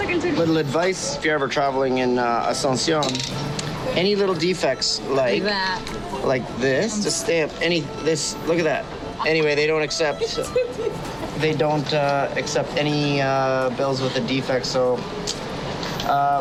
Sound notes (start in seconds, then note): 2.3 speaking Spanish